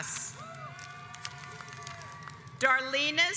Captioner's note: audience applauds